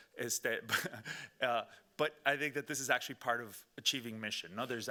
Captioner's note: laughing